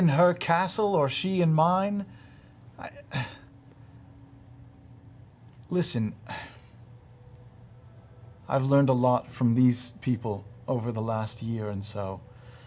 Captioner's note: sighs